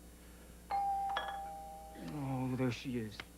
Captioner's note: doorbell rings